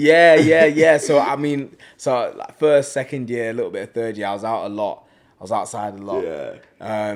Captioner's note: laughs